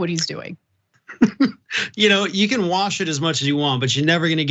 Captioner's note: laugh